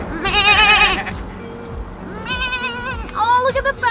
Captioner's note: make sheep sounds